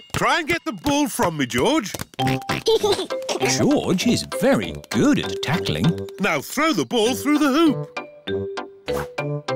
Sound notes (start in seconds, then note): 2.2 oinks and giggles